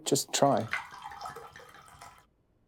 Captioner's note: water gurgles